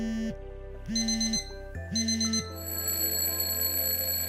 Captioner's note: phone vibrates; alarms ring